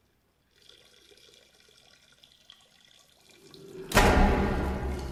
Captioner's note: Cole urinating; eerie music; loud banging